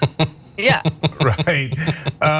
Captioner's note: laugh